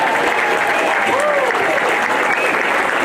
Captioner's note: applause